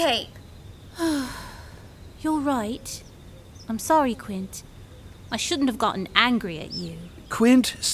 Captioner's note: sigh